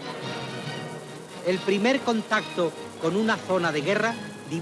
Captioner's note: male narrator speaking Spanish in propaganda video